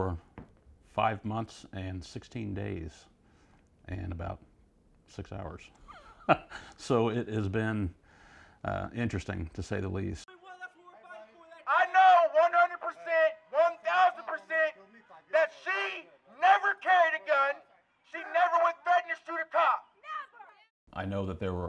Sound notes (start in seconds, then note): 5.8 chuckles